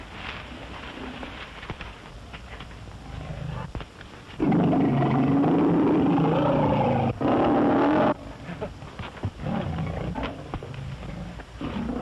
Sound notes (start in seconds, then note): 4.4 lion roars